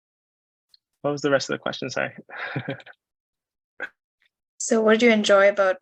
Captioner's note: chuckles